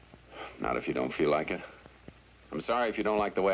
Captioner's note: sighs